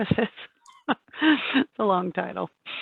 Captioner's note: laughs